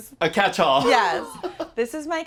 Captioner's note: laughs